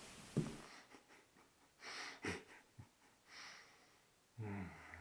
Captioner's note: Jacob chuckling